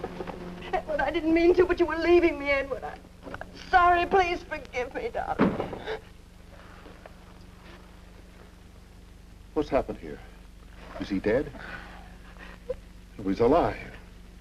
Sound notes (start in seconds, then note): 0.0 gun thuds; 0.0 sobs; 5.3 door thuds; 5.4 Doris gasps; 11.6 Doris sobs